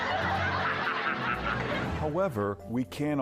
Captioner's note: Robin laughs; crowd laughs